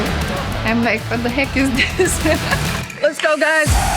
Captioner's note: laughs